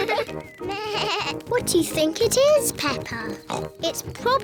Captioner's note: bleats; oinks